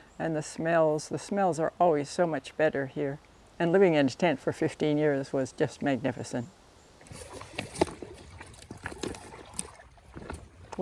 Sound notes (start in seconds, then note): 7.1 footsteps